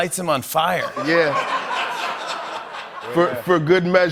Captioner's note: laughter